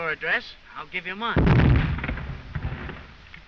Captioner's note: explosion